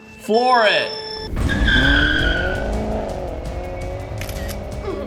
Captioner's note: countdown beeps; tires screech; camera snaps